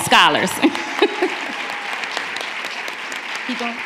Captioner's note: applause